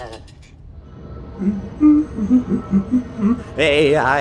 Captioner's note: terrified shivering; humming